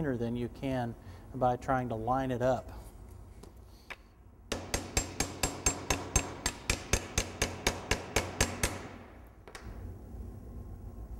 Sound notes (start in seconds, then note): 4.5 hammer banging edge banding